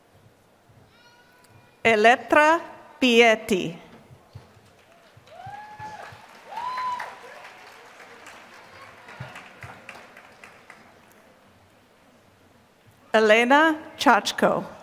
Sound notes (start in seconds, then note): 4.6 applause